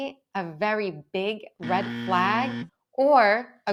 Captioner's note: buzzer buzzes